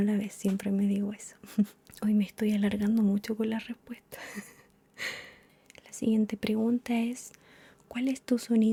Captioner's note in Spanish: risas